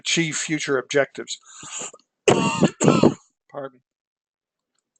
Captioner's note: cough